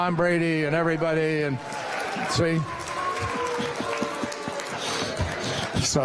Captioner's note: laughter and cheering and booing